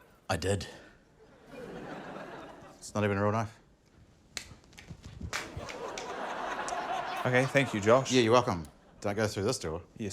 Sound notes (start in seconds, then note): 5.4 laughter